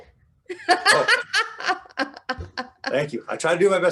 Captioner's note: laughing